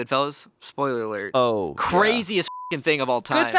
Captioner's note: beep